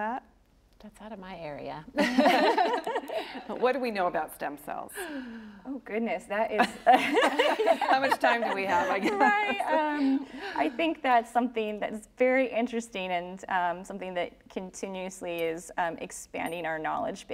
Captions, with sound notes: >> WOULD ANYONE LIKE TO TACKLE THAT? >> THAT'S OUT OF MY AREA! >> WHAT DO WE KNOW ABOUT STEM CELLS? >> OH, GOODNESS. THAT IS -- [ LAUGHTER ] -- HOW MUCH TIME DO WE HAVE? >> RIGHT. I THINK THAT'S SOMETHING THAT'S VERY ENTERING AND SOMETHING THAT CONTINUOUSLY IS EXPANDING OUR KNOWLEDGE BASE.